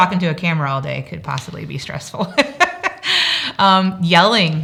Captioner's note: laughs